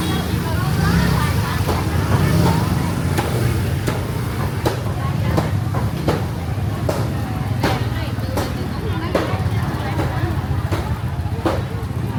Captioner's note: sounds of conversation and the murmur of the crowd